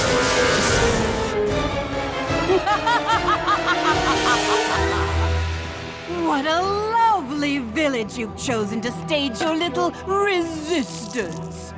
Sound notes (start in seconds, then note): 2.4 evil laugh